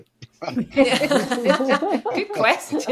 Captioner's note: panellists laughing